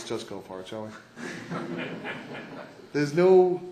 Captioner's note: laughter